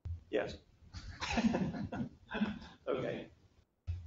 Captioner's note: laughter